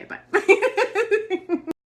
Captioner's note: laughs